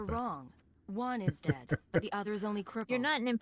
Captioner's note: laughs